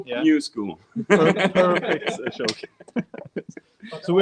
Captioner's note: laughing